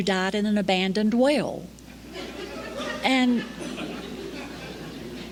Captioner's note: laughter